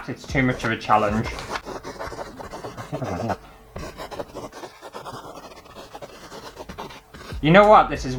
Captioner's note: pen Scraping On Canvas